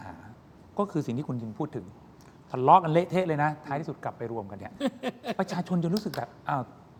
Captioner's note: laughs